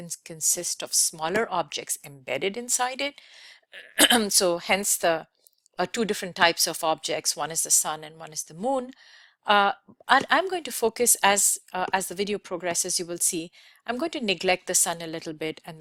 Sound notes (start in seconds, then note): 3.8 clears throat